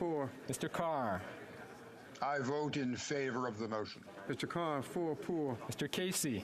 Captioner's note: speaking French